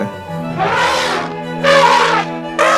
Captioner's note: elephant trumpet; elephant trumpet!!!